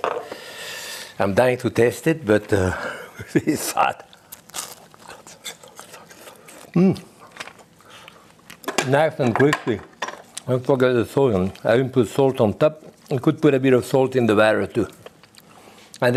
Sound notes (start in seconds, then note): 3.8 teeth crunching